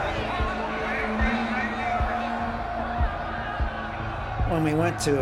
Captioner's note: crowd clamoring